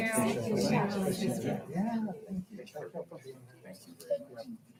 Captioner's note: all chattering